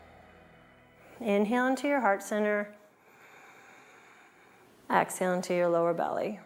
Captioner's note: breathes